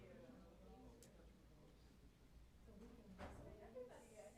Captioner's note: indistinct chatter